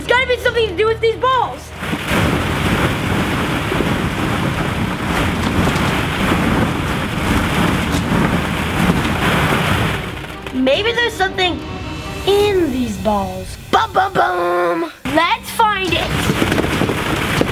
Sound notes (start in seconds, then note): 5.9 digging